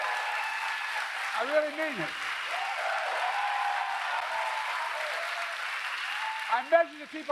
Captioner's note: applause